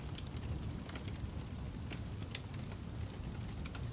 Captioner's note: ambient Campfire Sounds